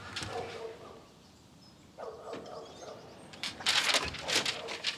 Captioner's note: dog barks; certificate rustles